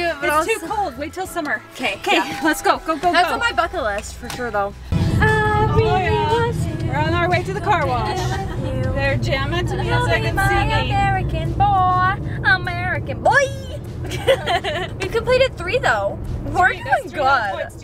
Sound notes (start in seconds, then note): 14.0 laughs